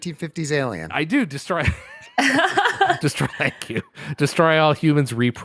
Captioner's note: laughter